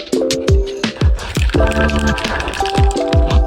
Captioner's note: rattlecan rattling